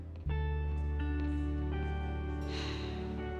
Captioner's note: sighing